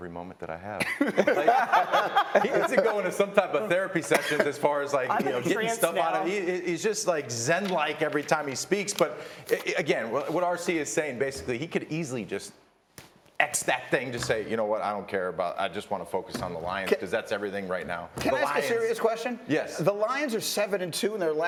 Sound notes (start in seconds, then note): 4.0 laughter